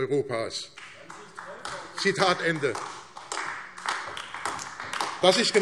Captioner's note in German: Beifall AfD